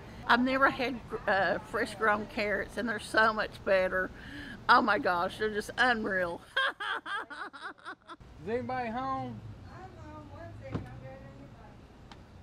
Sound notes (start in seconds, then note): 6.4 laughs happily